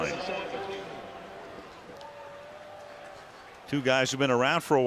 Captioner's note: pa announcement